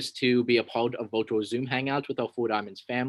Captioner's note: voice Low